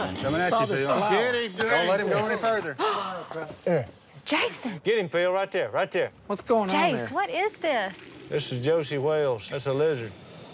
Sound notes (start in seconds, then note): 2.8 gasps